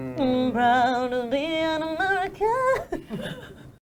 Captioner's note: all chuckling